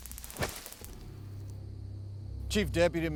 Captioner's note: body thudding